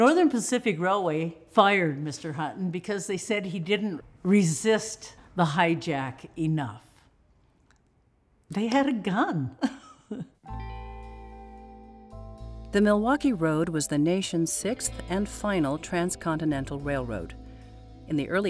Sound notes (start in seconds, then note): 9.9 laugh